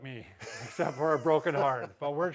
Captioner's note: chuckles